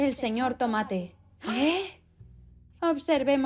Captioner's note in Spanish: Sonidos de sorpresa